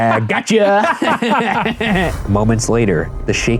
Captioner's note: both laughing